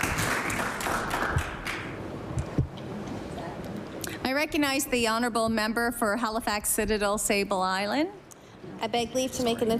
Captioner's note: applause